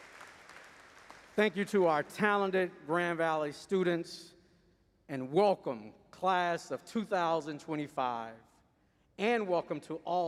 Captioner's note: applause